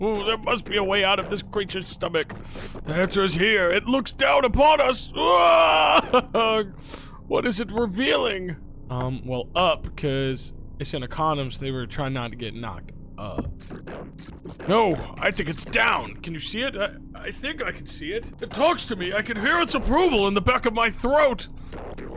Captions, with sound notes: There must be a way out of this creature's stomach. The answer is here! It looks down upon us! (yells) What is it revealing?" Well, UP 'cause it's in a condom so they were trying not to get knocked up. "No! I think it's DOWN! Can you see it? I think I see it. It talks to me! I can hear its approval in the back of my throat!